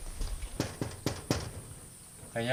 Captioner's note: knocks on the door